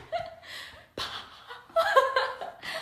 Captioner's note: ha ha ha